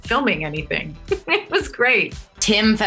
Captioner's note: giggles